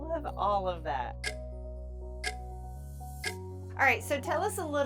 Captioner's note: clock ticking